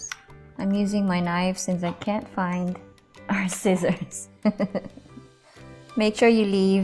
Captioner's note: chuckles